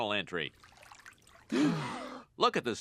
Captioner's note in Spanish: agua burbujeante; los niños jadean